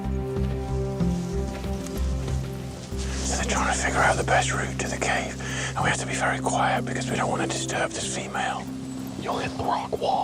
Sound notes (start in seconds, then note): 2.9 whispering